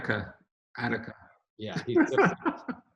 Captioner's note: laughs